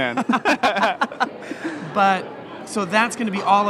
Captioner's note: laughing